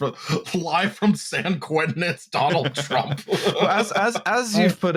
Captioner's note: laughs